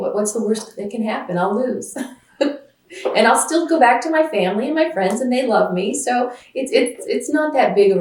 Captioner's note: laughs